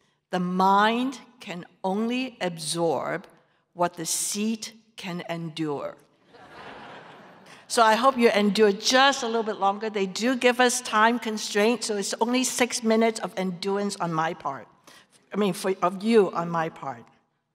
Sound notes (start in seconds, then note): 6.3 audience laughter